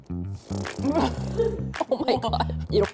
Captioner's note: mouth fart sound